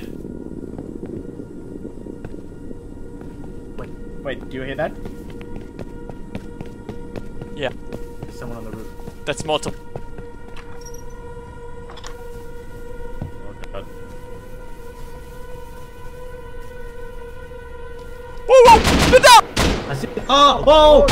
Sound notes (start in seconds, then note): 0.1 light thudding of creeping steps; 4.3 steps become louder and hastier; 10.5 window hinges creak; 19.5 guns firing